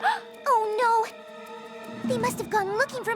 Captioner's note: gasps